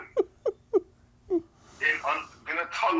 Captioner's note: laughs